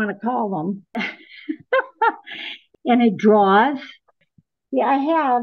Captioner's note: ha ha